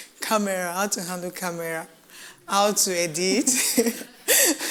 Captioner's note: laughs